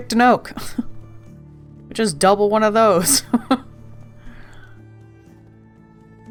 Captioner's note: laughs